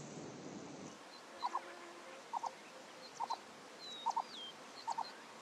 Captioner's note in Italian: cinguettii